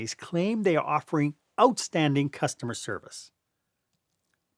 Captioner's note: voice-over